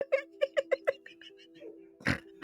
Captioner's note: laughing